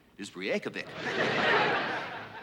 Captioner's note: laughter